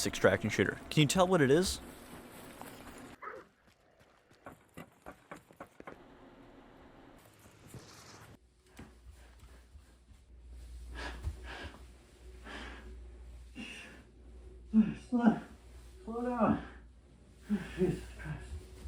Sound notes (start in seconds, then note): 10.8 tiredly panting